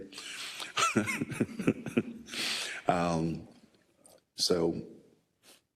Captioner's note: laugh